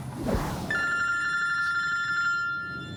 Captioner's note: phone rings